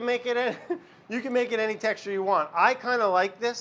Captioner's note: laughs